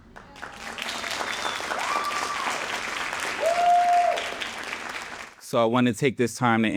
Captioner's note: audience cheering and applauding